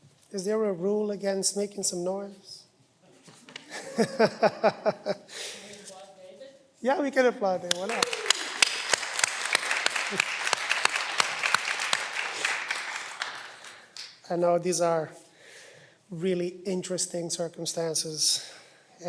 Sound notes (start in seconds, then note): 3.6 laughter; 7.8 cheering